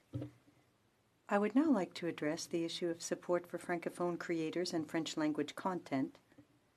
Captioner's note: speaking French